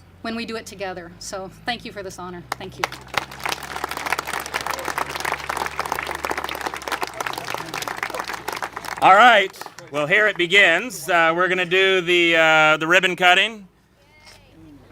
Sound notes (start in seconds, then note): 2.8 congregation applaud